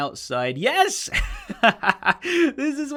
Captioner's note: chuckles